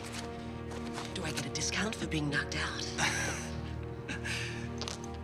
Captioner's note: chuckles